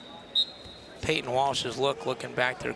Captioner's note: whistle blows